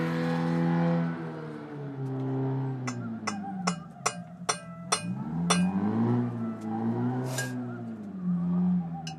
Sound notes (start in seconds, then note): 3.4 clinking spoon loudly